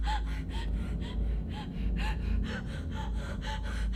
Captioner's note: ominous humming